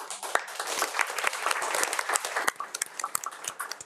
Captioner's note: audience applauds